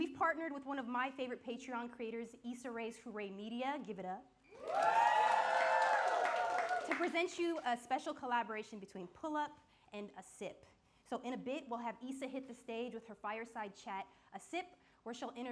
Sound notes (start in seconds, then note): 4.5 audience cheering and clapping